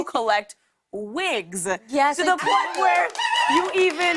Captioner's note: cheers and applause